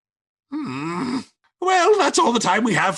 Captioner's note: groaning